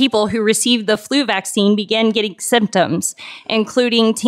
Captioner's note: none